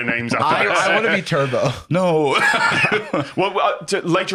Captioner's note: laughs